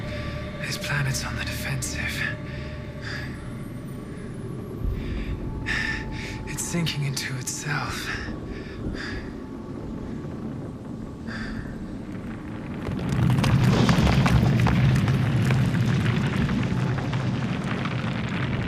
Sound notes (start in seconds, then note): 9.7 planet groaning; 13.2 intense crumbling